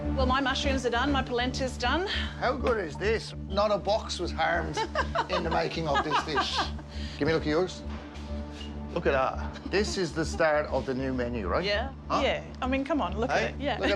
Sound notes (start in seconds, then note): 4.7 laughs